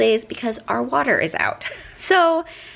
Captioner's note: chuckles